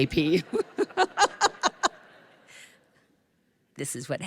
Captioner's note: laughter